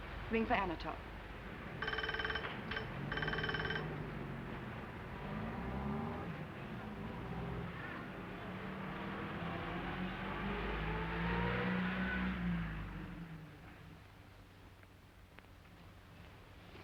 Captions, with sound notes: Ring for Anatole. (ringing) (traffic humming)